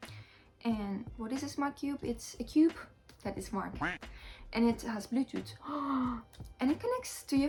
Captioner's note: duck quack